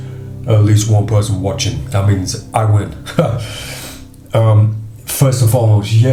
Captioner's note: laughs